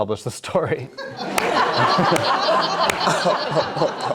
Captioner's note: all laughing